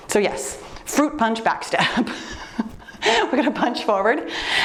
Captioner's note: laughs